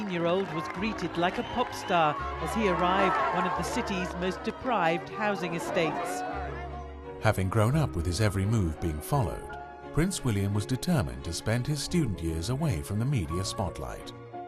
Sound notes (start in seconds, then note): 6.5 voiceover